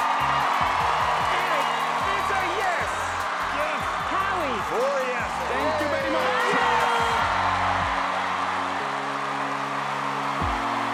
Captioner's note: cheering; music and cheering